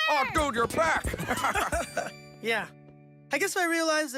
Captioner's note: chuckling